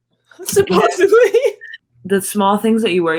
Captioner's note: laughing